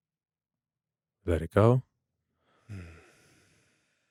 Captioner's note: exhales